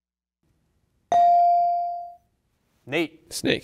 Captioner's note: bell rings